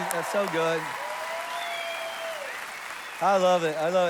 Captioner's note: congregation applauds and cheers